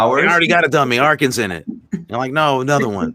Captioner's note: everyone laughing